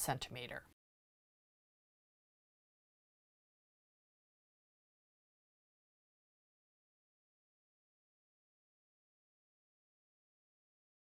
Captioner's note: no Sound Present